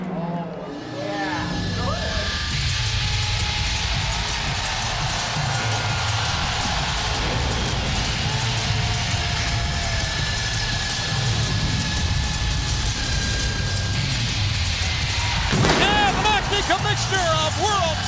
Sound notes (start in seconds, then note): 4.2 crowd cheering